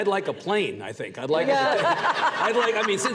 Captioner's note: audience laughs